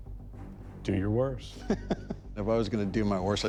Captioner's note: laughs